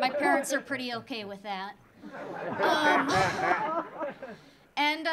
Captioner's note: audience laughing